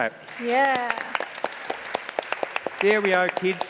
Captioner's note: applause